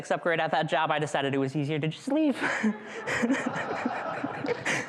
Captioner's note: laughs